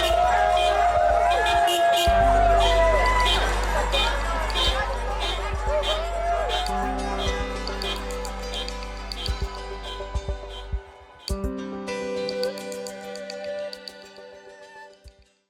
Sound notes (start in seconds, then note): 0.1 group cheering; 0.1 horns honking; 5.2 group clamoring; 5.2 horns honking; 12.3 pensive music